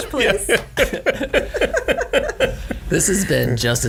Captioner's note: laughing